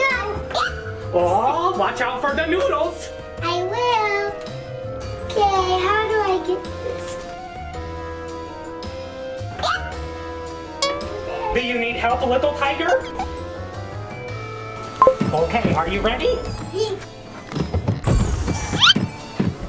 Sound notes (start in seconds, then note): 9.7 squeals; 12.9 head squeaks; 15.0 button beeps